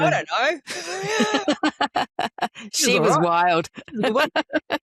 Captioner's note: laughs